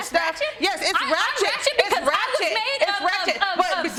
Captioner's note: stutters